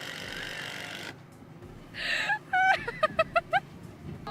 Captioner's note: laughing